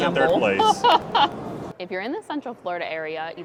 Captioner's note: laughs